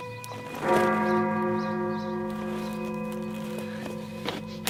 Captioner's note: bells ring